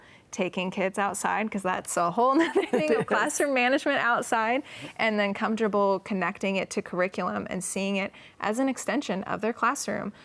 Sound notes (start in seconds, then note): 2.4 laughs